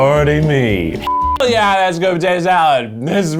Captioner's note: beep